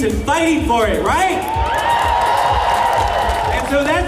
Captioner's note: cheers